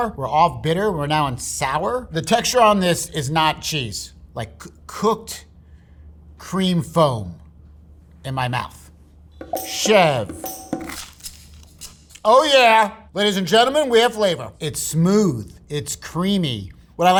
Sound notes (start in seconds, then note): 9.5 upbeat music; 10.9 sandwich rustling